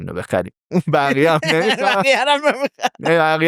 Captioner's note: laughs